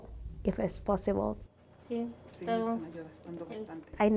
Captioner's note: responding in Spanish; speaking in Spanish